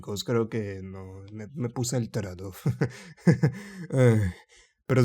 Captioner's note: laughs; sigh